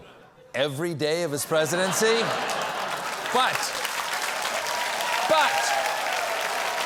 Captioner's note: applause; cheering; applause